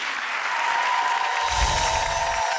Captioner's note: audience cheering; magical music